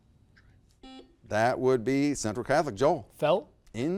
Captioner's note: buzzer beeps